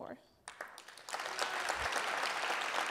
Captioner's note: applause